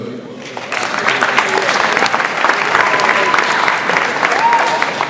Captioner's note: audience applauds